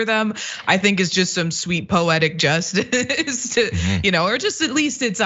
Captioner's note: laugh